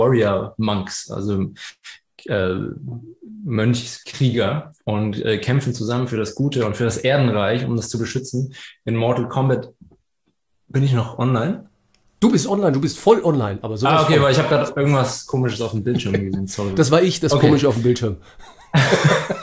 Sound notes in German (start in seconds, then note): 18.1 haha